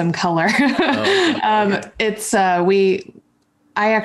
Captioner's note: chuckles